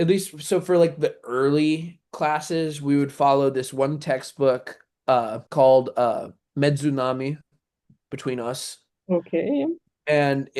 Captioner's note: russian